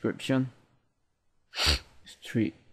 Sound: snorts

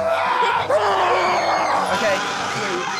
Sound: screaming

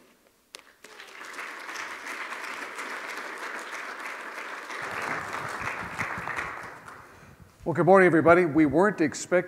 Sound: applause

